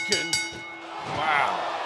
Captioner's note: bell ringing